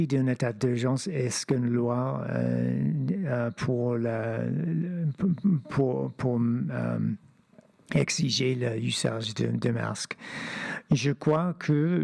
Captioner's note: speaking French